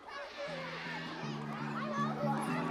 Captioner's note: children chatter